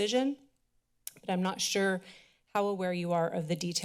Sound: clicks tongue

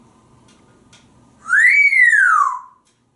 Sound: half wolf whistle

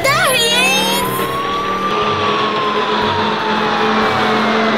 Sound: siren wailing

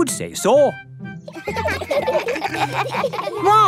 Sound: children giggling

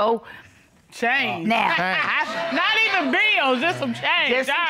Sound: laughs

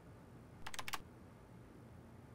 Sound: typing

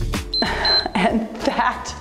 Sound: timer beeps

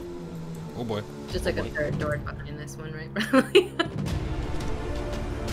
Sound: laughs

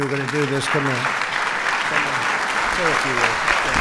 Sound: applause

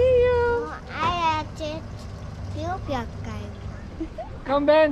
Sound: speaking Dutch; giggles

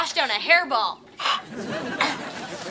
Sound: gagging

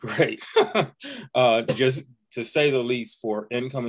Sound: laughter

